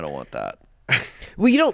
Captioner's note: laughs